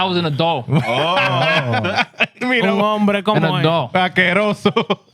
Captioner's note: laughing; speaking In Foreign Language